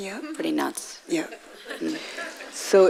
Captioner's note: audience laughing